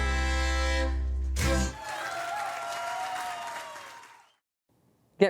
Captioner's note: audience applauding